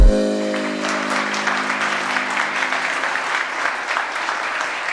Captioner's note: audience claps